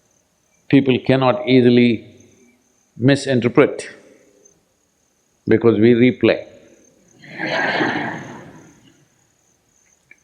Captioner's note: laughter